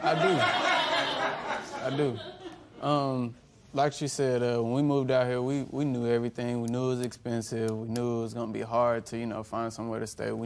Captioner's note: laughter